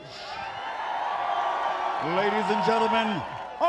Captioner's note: crowd cheering